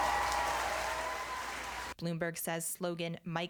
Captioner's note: cheers